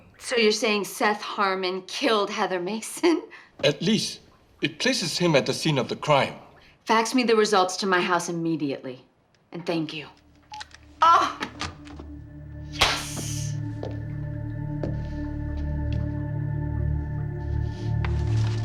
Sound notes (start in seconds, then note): 10.4 phone beeps; 14.2 ominous music